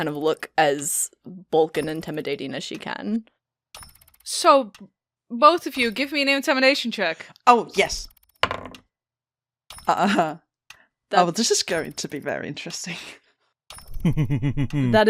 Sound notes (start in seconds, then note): 8.4 dice clacks; 14.0 giggles from the group